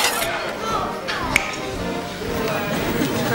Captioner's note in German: Schnappt Finger